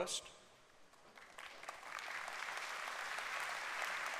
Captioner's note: applause